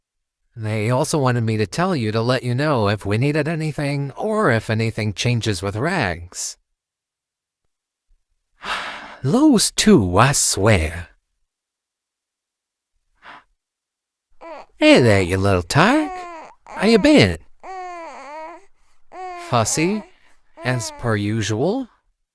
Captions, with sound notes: They also wanted me to tell you to let them know if we needed anything, or if anything changes with Raggs. [Sighs] Those two, I swear! [Leon cooing] Hey, there, you little tyke! How you been? [Leon's cooing settles] Fussy, as per usual.